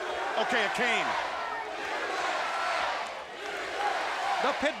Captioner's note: crowd cheering